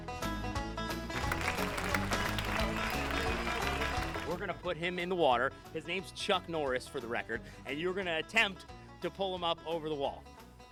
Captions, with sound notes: (clapping) We're gonna put him in the water, his name's Chuck Norris for the record and you're going to attempt to pull him up over the wall